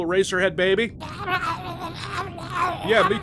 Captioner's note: more garbled baby sounds